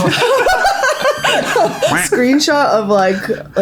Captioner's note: laughing